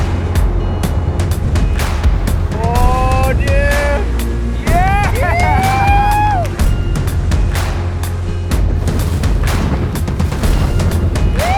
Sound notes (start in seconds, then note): 4.6 man whooping; 7.9 upbeat electronic music